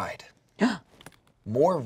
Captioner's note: gasps